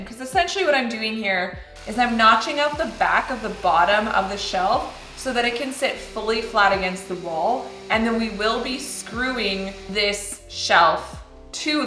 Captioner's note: grinder Whirring